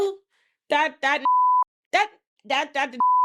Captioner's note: beep